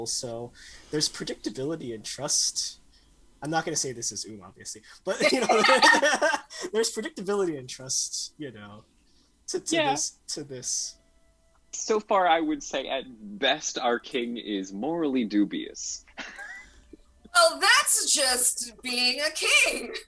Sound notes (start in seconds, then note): 5.1 cast laughs